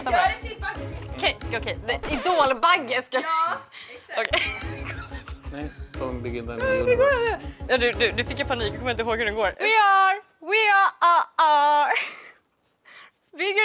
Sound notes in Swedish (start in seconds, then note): 4.4 nervöst skratt; 11.9 Nervöst fnissande